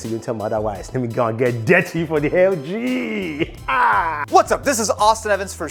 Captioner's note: laughs